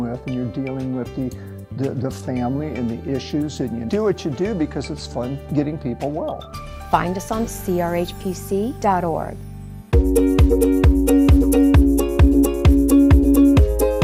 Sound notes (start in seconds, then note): 7.3 voiceover; 10.0 upbeat music